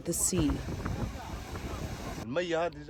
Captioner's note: through translator